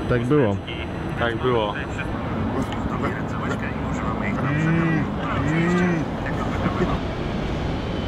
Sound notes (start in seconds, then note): 2.5 indistinctive animal sounds